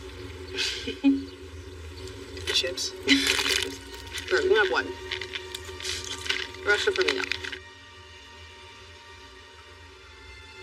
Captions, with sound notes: (Layla c chuckles) - - Chips? (Layla lauaughs) - - Sure, you cacan have on. The restst are for me e thou. (dramatic mumusic)